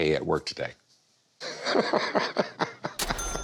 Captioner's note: laughs